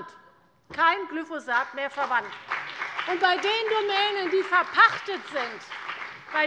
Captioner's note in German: Beifall bei der CDU und dem BÜNDNIS 90/DIE GRÜNEN